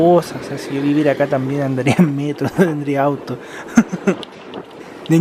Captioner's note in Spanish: risas